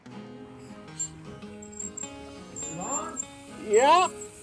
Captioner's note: wheel squeaks